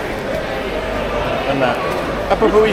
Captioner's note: speaking in foreign language